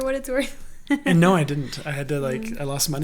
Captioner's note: laughs